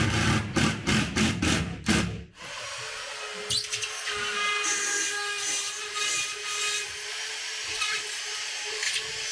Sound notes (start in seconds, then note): 2.3 saw buzzing